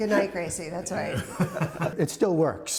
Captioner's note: laughter